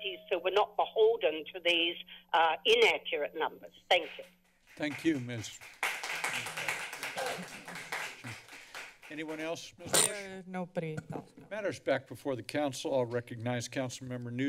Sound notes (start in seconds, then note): 4.6 applause; 7.0 coughing; 9.8 static noise